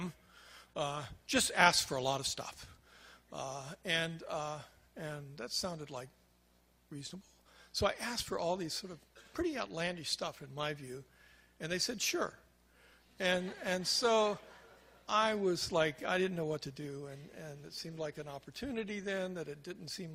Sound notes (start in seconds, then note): 13.2 crowd laughs